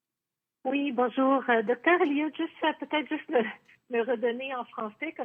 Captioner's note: speaking French